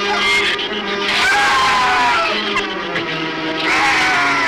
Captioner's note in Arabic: زئير الزبابة; صراخ الغراب